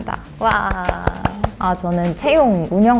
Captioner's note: applause